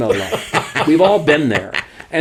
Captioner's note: both laugh